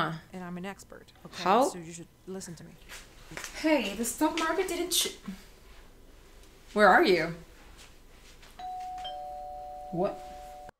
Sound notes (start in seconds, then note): 8.6 doorbell rings